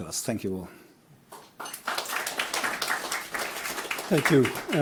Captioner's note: applause